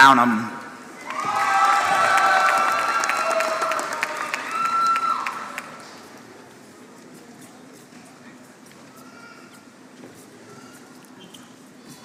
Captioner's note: applause